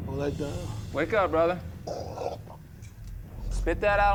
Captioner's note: coughs